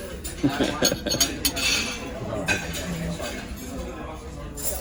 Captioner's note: laughs at Lauren’s reference to our bread from last time